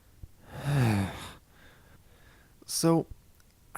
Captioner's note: sigh